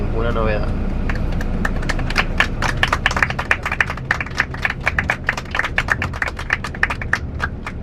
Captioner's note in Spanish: aplausos de los pasajeros